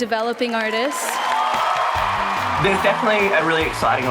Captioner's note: whooping and applause